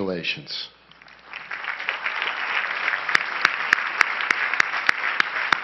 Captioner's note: crowd applauding